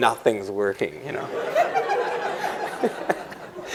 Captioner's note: laughter